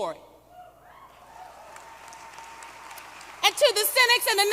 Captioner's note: applause